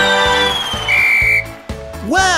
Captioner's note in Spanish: Sonido de silbato